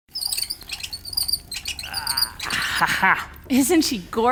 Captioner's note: pulley squeaking; grunting